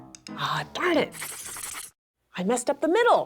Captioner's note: scribbling